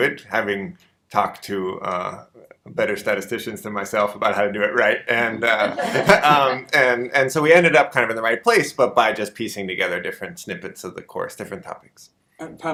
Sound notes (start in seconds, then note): 5.5 audience laughter